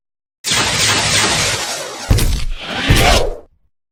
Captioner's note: whooshing